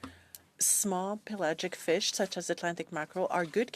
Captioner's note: speaking in French